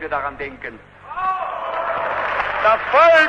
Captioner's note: applause